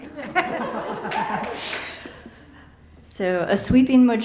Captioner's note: laughter